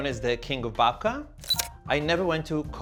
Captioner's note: camera shutter clicks